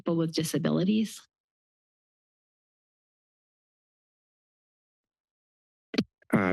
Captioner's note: silence